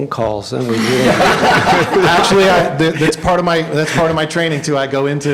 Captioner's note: laughter